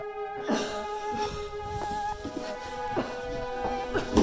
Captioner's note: Leona coughs